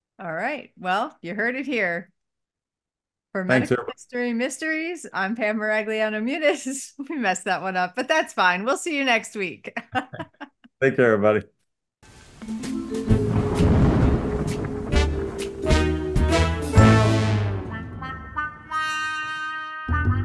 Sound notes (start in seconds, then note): 12.4 suspenseful music; 12.8 thunder roaring